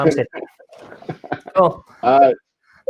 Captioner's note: laughing